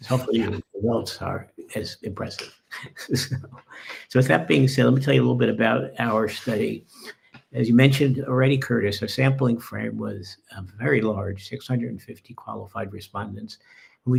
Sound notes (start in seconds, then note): 2.6 laughing